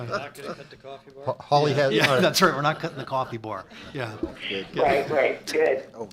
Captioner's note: laughter